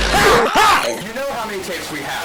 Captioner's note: yelling